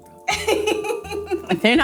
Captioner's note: laughing